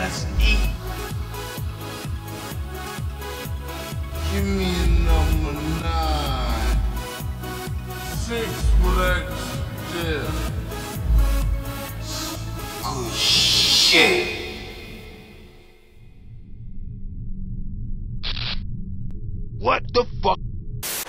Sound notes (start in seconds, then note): 0.0 hype dance music; 10.2 hype dance music; 18.2 static